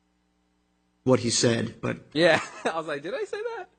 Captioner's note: laughs